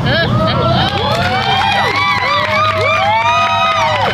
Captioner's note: audience cheers and applauds